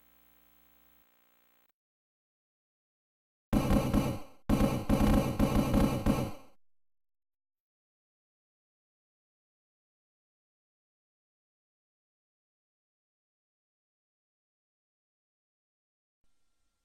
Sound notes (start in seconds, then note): 3.5 16-bit basketball dribbling sounds; 12.0 silence